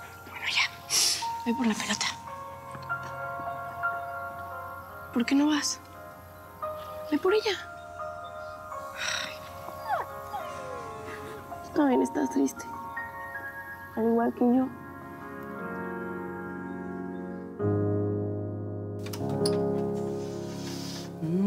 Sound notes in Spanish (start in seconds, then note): 11.6 llanto del perro